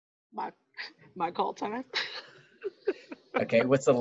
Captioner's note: laughs